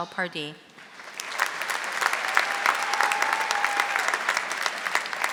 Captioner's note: audience applauding